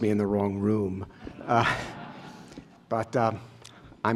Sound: laughter

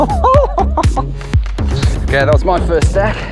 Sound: laughs

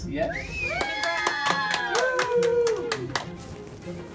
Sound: cheering

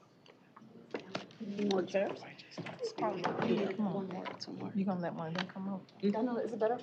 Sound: indistinct chatter

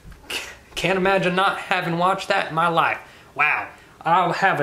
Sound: scoffs

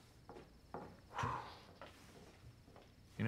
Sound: exhales

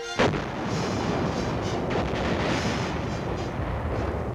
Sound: explosions booming

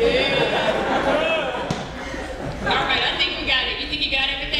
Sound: audience laughing

